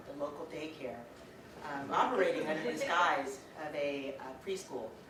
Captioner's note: audience: Laughter